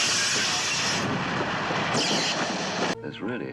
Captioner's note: banging, sound of sparks flying